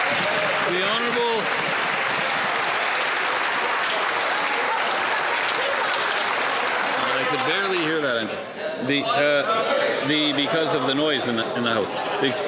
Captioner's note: some Applause